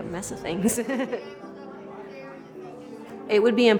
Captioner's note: chuckles